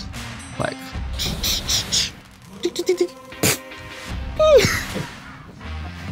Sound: speaker making laser sounds effects

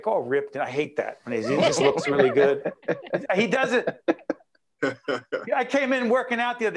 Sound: laughing

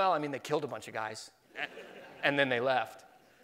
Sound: laughing

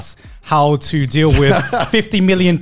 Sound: chuckles

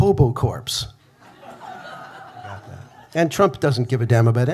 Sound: audience laughing

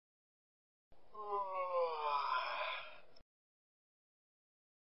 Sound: yawns

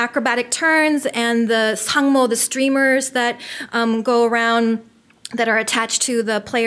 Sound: foreign language

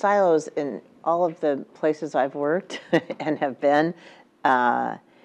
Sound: laugh

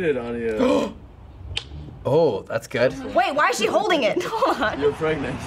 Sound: gasps

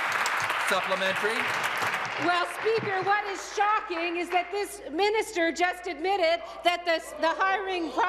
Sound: applause

